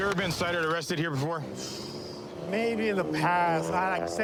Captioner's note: exhales sharply